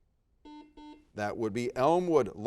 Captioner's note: buzzer dings